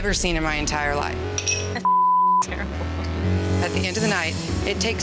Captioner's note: beep